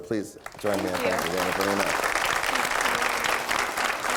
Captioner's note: applause